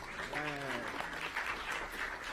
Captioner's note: applause